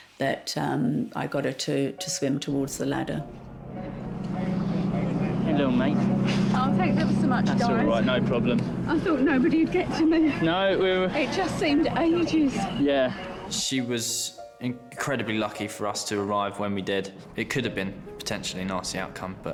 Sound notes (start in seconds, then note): 4.3 engine whirring